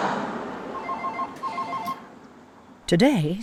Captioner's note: phone ringing